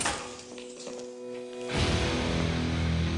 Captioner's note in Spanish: Sonido al abrir la puerta